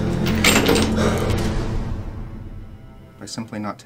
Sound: chains clanking

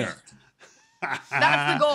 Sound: laughter

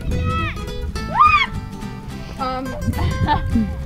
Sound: screaming

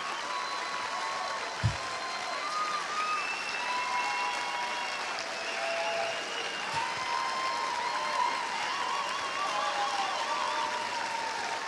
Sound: cheers and applause

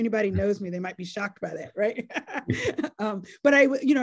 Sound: laughs

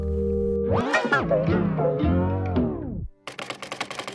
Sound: tape rewinds

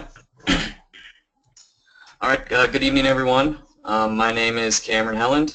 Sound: cough

